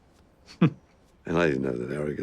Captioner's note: scoffs